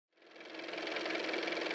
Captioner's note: car motor